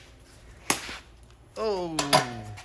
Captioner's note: crunching sound